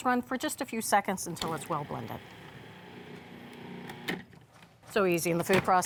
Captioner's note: food processor whirs